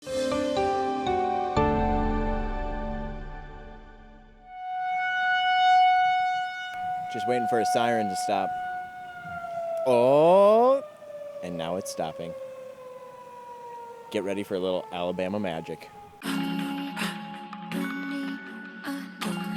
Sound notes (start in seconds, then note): 0.7 soft bright music; 4.7 siren wailing; 16.3 soft upbeat music